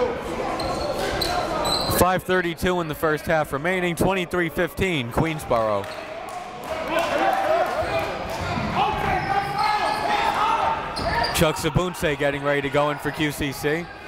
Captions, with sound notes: 5:32 in the first half remaining, 23-15 Queensborough. (crowd talking) (coaches yelling) Chucks Obunse getting ready to go in for QCC.